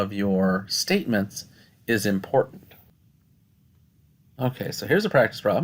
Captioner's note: no Speech Detected